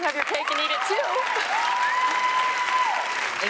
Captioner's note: audience cheers and applauds